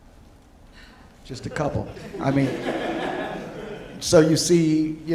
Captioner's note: audience laughing